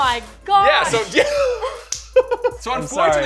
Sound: laughs

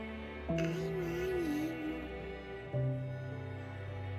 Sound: baby mumbling

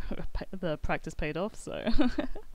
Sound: laughs

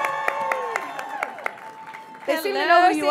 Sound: audience cheering

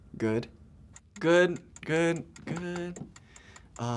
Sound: timer ticking

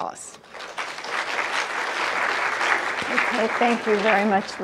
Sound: applause

